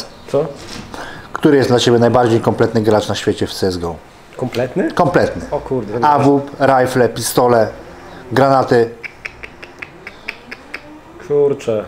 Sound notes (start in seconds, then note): 8.9 thinking sounds